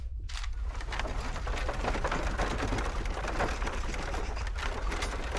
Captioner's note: townsfolk bustling